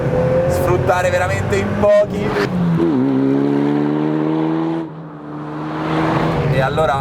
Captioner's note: engine sound